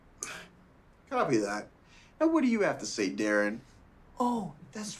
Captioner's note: scoffs